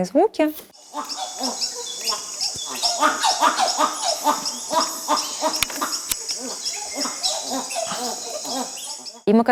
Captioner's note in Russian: обезьянье уханье